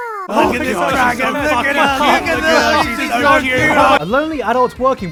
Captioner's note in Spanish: Sonidos de ES TAN LINDA AWWWWWWWWWW